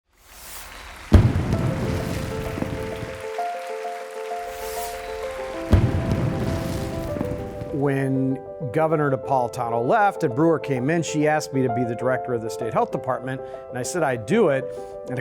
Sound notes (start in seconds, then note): 0.8 fireworks explode; 2.3 optimistic music; 5.2 fireworks explode